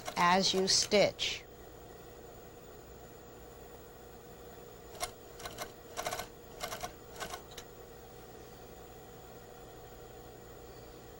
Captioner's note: sewing machine